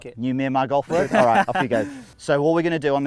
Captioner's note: men laugh